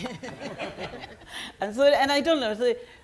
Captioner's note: audience members laughing